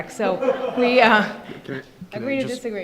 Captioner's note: laughter